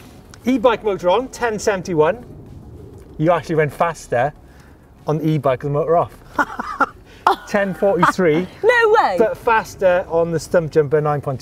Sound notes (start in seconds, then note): 6.3 laughter